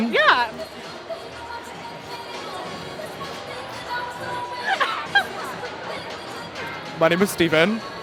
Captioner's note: laughing